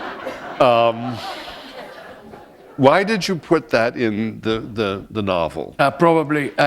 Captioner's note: laughter